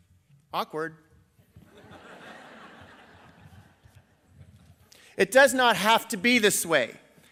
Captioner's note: laughter